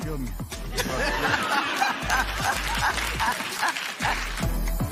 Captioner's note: laughter